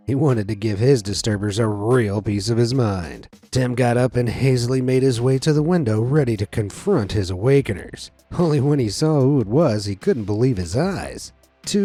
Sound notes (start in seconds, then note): none